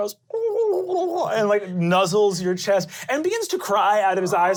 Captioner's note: glottal cooing